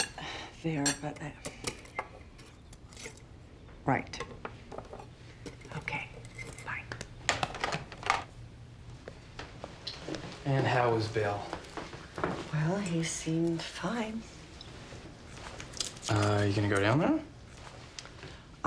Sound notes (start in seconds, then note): 0.1 sighs; 7.3 hangs up telephone